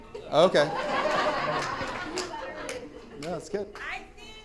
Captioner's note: audience laughing